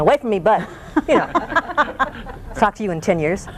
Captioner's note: laughter